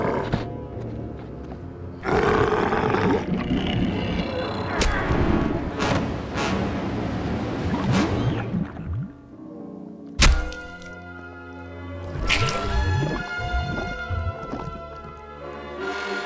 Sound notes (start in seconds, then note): 2.0 growling; 4.8 fleshy thunk; 7.7 gurgling; 10.3 fleshy thunk; 12.1 gurgling